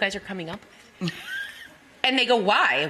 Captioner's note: laughing